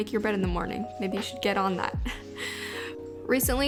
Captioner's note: giggles